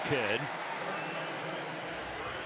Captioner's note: whistle